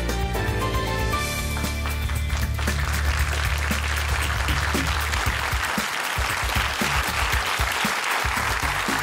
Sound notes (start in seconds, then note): 1.3 applause